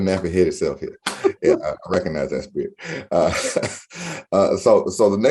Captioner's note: laughs